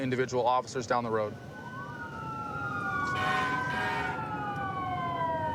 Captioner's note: emt sirens blaring